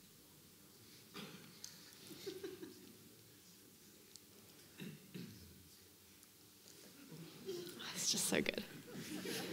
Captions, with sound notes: (attendee giggling) (people murmuring) It's just so good.